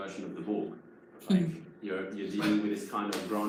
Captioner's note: employees laugh